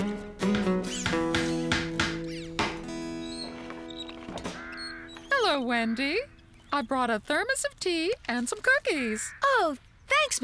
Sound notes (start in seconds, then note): 0.4 hammer Pounding